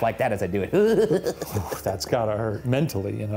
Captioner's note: chuckling